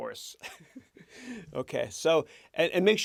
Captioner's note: chuckles